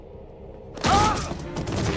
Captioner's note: groan; slam